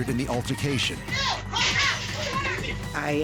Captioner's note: overlapping shouting